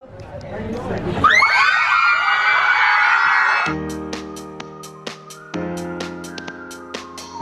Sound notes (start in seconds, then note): 1.2 screaming; 3.6 upbeat music